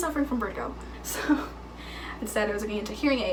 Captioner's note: chuckling